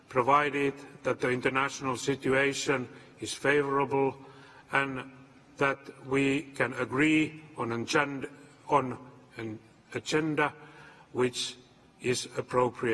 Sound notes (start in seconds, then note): none